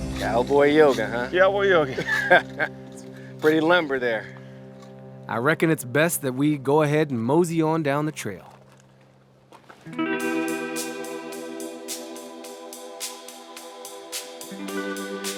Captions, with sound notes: Cowboy yoga, huh? - Cowboy yoga. - (laughing) It's pretty lumber there. I reckon it's best that we go ahead and mosey on down the trail. (whimsical music)